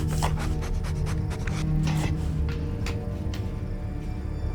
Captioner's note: Lana panting and sniffing; soft tense orchestral music